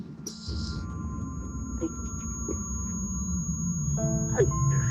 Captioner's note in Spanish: Quejidos